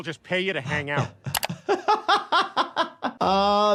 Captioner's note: laughing